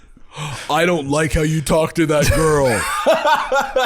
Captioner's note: deep voice